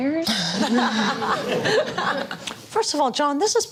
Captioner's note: laughter